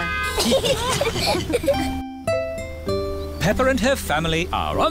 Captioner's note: italians honk back; all giggling